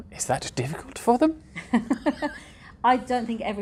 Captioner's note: both laugh